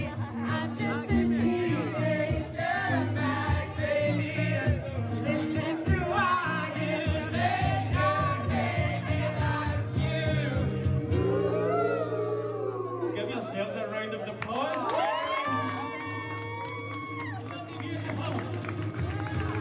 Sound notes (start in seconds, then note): 14.9 crowd cheering